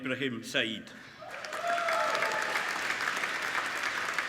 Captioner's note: applauding